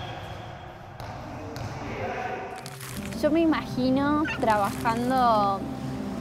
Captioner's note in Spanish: rebote de pelota